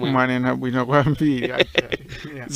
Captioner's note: laughs